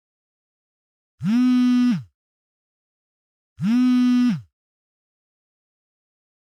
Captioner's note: phone Vibrating